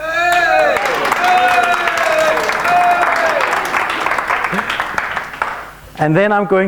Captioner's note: applauds and shouts